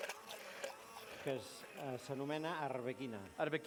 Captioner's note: non-english speech